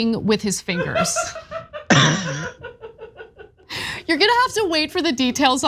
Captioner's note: laugh